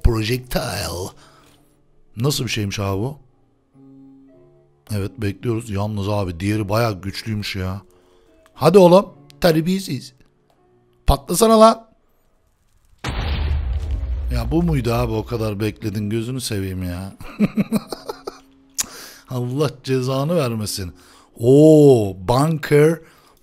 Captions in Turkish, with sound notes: Projectile Nasıl Bir Şeymiş Abi Bu Evet Bekliyoruz Yalnız Abi Diğeri Baya Güçlüymüş Ya Hadi Oğlum , Terbiyesiz Patlasana Lan Ya Bu muydu Abi O Kadar Bekledim Gözünü Seveyim Ya ( Gülme Sesi ) Allah Cezanı Vermesin Oooo Bunker Buster